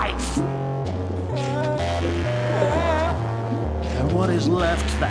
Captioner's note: whimpering